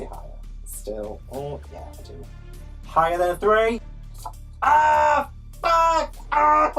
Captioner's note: screams